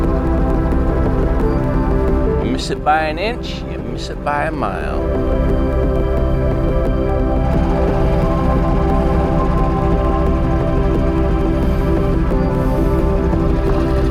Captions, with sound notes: You miss it by an inch, you miss it by a mile. (mellow music) (engine rumbling)